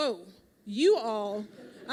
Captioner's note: laughter